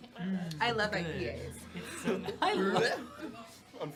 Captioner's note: laughter